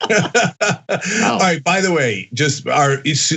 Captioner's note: laugh